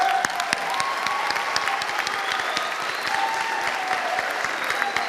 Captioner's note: audience applauding and cheering